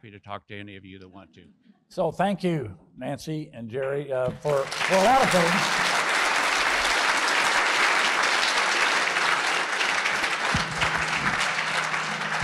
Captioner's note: applause